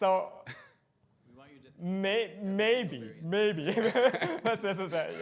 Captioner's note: laughs